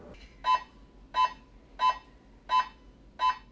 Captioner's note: loud beeping